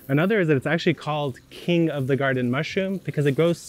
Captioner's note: water spraying